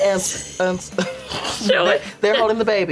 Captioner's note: laughs